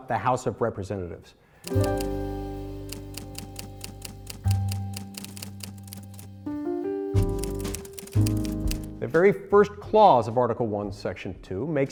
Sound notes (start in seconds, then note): 2.7 typewriter typing; 5.6 jazz piano music